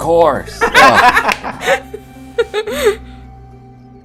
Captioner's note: laughter